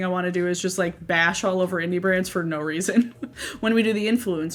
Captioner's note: laughs